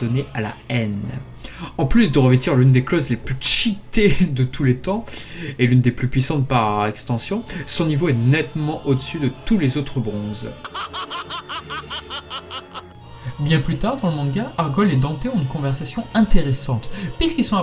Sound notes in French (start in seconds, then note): 10.6 rire